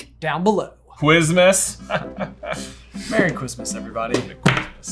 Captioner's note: laughing